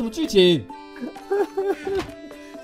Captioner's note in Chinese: 笑～～